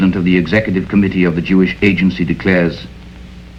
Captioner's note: none